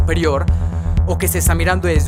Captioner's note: breathes